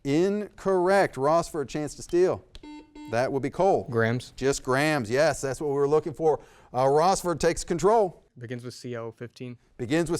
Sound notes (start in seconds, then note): 2.6 double beep